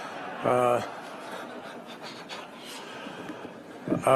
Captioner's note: laughter